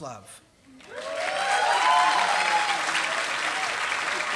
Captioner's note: applause